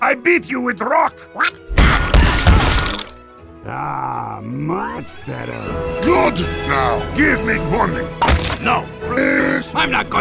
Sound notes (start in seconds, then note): 3.6 sighs